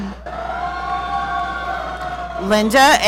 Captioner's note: audience cheering